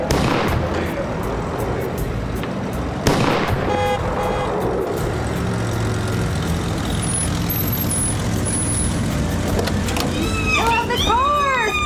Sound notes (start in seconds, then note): 0.2 car backfires; 3.0 car backfires; 3.6 horn honking; 6.0 brakes squeal, car door opens; 10.1 ellie squealing